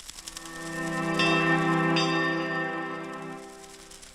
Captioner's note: bell chimes